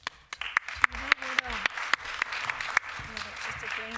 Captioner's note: applause